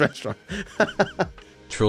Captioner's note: laughs